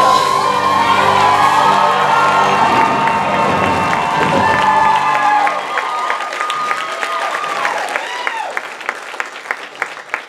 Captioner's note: audience cheers and applause